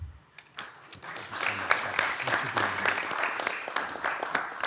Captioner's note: attendees applauding